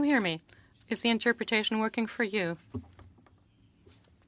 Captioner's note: speaking French